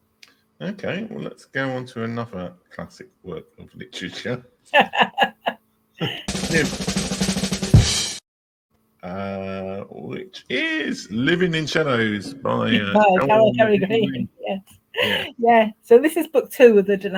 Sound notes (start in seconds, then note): 4.7 laughing; 6.0 drumming